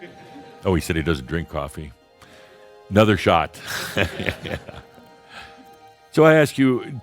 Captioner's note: chuckles